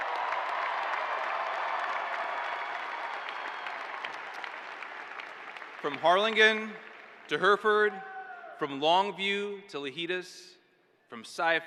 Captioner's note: cheers and applause